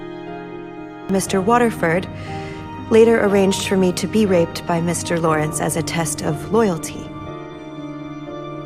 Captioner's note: voiceover